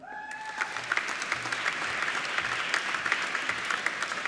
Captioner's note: applauding